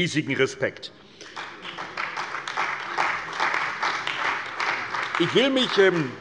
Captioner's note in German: Beifall bei der CDU und dem BÜNDNIS 90/DIE GRÜNEN